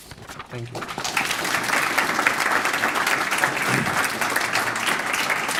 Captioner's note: applause